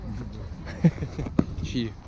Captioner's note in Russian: смеются